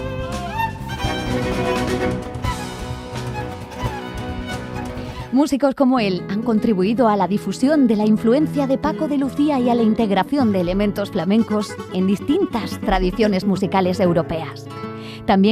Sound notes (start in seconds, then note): 5.4 speaking in Spanish